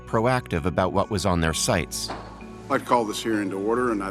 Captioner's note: gavel bangs